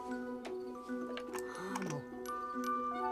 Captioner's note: chiming